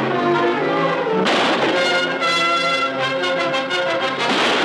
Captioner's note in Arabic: إطلاق النار بالمسدسات